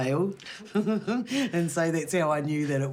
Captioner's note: both laugh